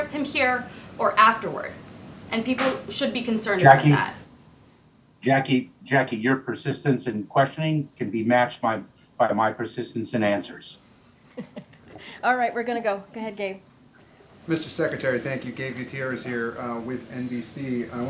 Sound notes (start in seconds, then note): 11.4 laughter